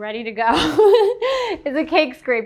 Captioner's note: laughing